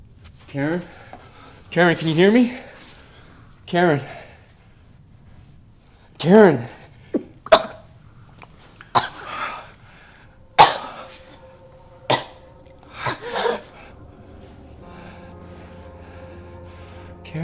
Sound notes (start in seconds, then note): 7.5 coughing; 10.0 looming music; 15.0 somber music